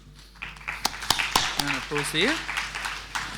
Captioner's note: audience applauding